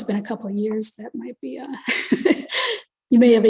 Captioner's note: chuckles